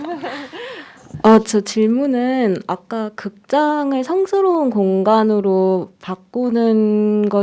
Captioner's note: group laughs; speaking in Korean